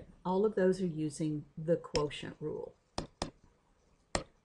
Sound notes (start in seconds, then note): 4.1 hard mouse clicks